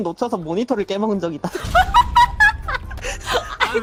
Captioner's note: startled laughing